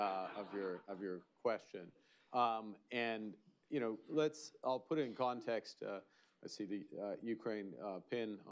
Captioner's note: laughter